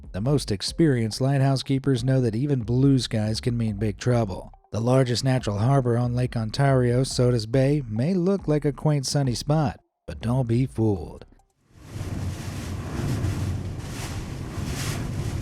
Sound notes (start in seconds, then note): 11.8 wind roaring